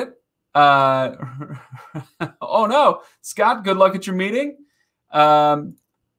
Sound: laughing

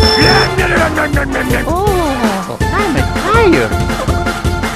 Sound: groan

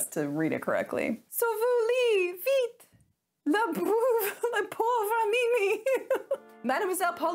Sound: speaking in French

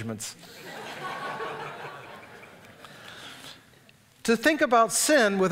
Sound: audience laughs

